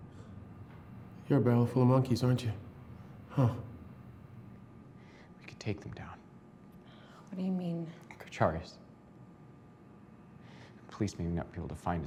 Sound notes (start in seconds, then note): none